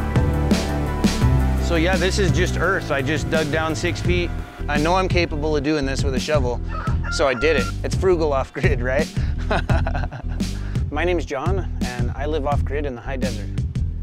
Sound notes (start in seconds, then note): 8.5 laughing